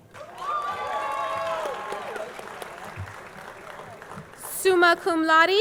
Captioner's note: audience cheering; audience clapping